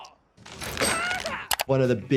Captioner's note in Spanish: paramédico 2 gemidos; paramédico 2 gritando